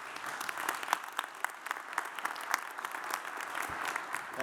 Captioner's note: audience applauds